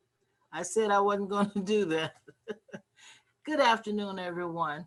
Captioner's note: laughs